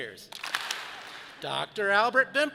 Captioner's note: audience claps